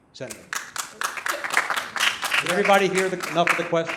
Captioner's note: applause